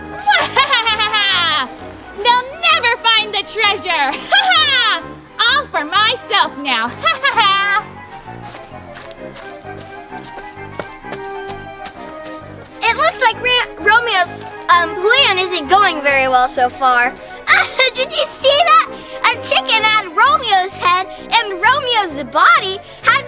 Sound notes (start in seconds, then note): 0.2 laughs; 4.3 exclaims; 6.8 laughs; 17.4 laughs